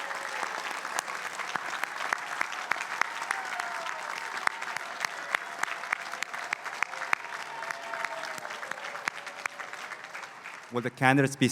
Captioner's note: applause